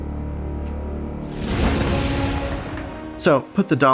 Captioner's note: explosion